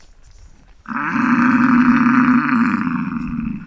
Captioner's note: bison roar